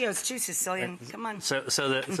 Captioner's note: chuckles